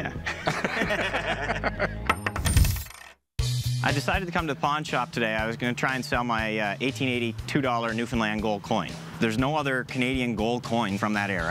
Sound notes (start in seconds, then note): 0.0 both laugh; 2.3 coin jangles